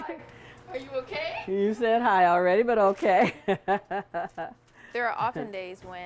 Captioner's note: laughs